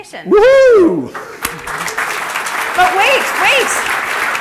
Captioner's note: applause